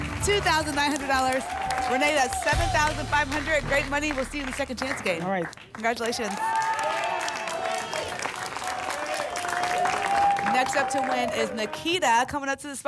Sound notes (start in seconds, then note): 7.9 applause and cheering